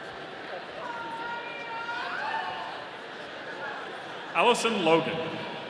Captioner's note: audience cheering